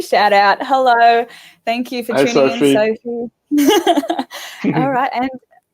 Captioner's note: laughing